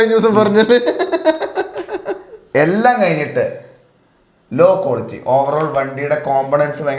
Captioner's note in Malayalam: പൊട്ടിച്ചിരി